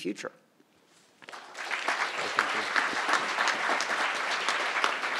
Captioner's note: crowd applauding